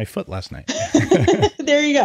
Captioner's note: laughing